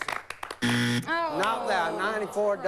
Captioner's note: buzz